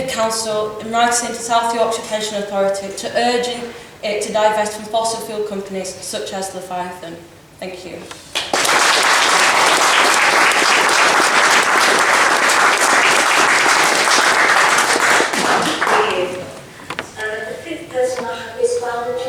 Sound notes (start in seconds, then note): 13.5 applause